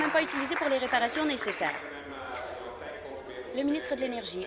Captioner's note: applause